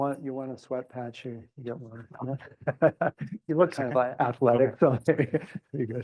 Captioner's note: laugh